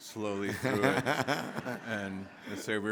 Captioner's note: audience laughing; Henry laughing